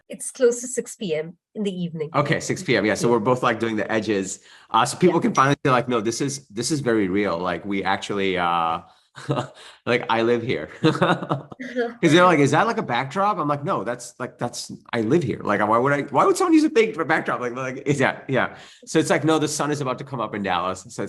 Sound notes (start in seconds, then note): 9.2 laughing